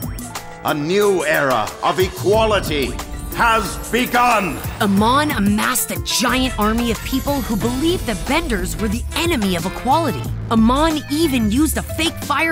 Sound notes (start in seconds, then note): none